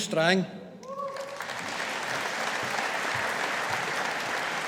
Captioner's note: audience applauding